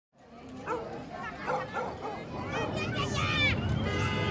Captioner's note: background sound of busy area